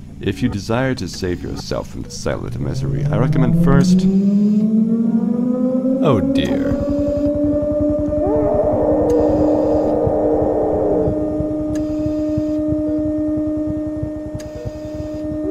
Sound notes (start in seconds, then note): 0.6 mechanical ambiance; 2.5 distant siren; 2.9 mechanical ambiance; 5.9 distant siren; 6.4 distant helicopter; 7.2 distant siren; 8.2 distant helicopter; 8.2 distant monstrous screaming; 8.2 distant siren; 11.8 distant helicopter; 11.8 distant siren; 15.3 distant screaming